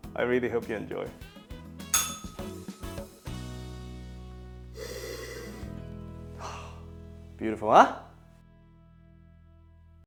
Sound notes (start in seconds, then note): 1.9 bell rings; 6.4 sighs